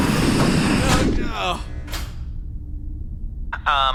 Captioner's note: hatch closing noise